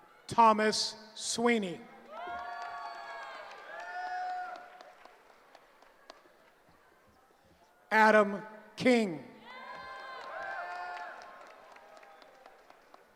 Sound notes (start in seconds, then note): 2.0 cheering; 9.4 cheering